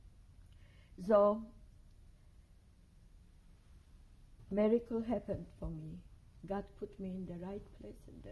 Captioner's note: pauses for 3 seconds